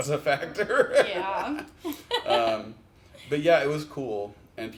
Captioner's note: laughs